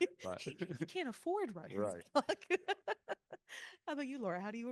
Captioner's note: laughing